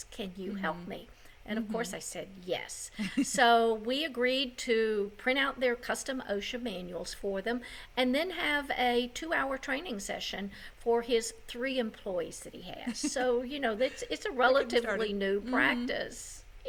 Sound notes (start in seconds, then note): 2.9 laughs; 12.8 laughs